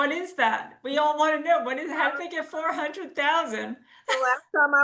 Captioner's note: laughs